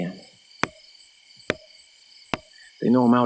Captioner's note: wood tapping